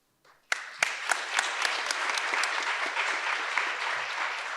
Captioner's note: audience applauds